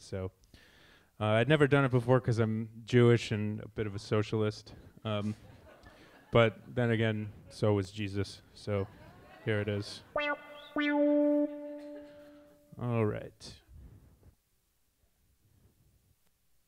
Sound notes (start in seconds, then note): 5.3 audience laughs; 10.1 piano music